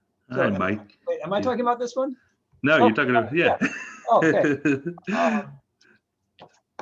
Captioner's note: laughs